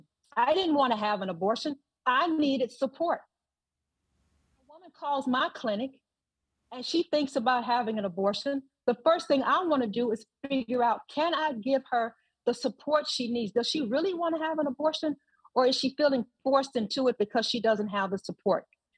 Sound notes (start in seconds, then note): 3.0 audio out